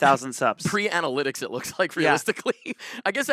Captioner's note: laughs